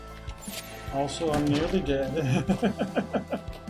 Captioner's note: laughs